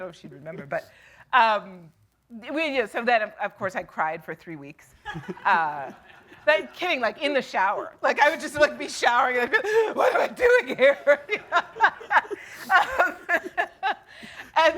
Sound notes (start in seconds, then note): 5.1 audience laughing; 11.1 laughing